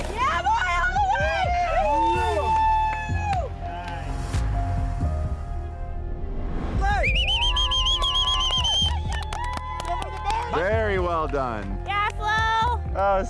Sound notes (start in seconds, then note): 0.0 group cheering; 6.8 group cheering